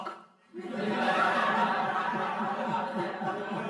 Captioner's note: crowd laughing